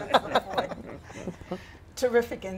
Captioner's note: laughter; laughter continues